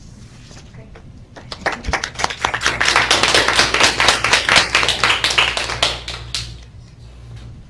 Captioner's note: clapping